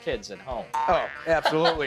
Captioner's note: laughing